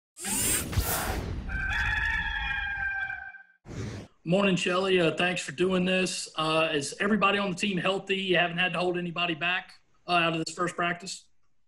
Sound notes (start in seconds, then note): 0.2 logo whooshes; 1.4 rooster crows